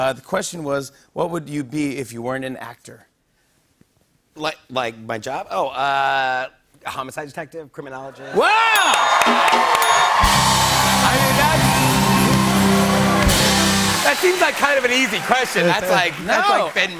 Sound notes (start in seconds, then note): 9.4 cheers and applause; 9.8 ding